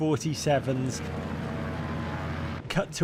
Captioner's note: c-47 engines roaring